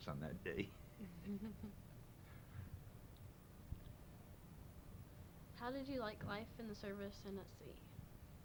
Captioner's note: chuckles